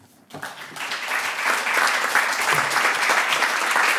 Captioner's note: clapping